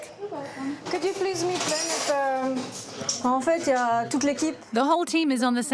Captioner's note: French spoken audio